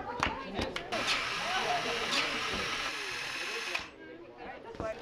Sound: sound of electric motor running

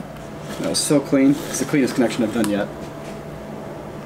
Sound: none

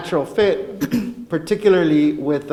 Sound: clears throat

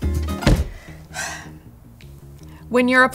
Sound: sighing

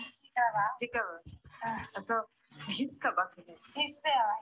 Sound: speaking gibberish

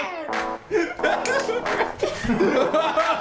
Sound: laughing

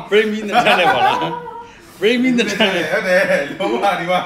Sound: laughs

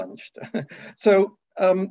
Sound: chuckles

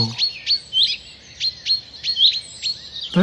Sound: birds alarm-calling

